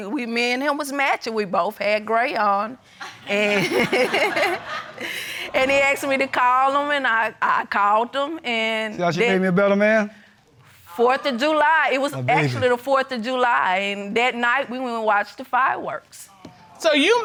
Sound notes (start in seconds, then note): 3.2 chuckles